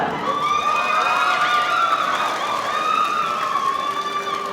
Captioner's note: audience cheering